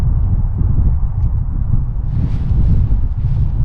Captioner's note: wind whooshing